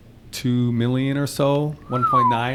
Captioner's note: whistles